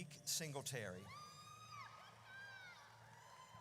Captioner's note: audience cheers